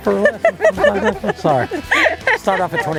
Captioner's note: laughing